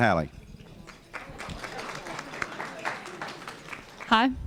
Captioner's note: applause